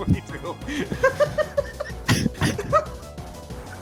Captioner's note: more laughing